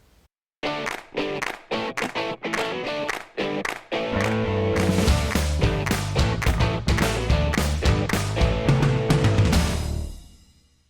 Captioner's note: claps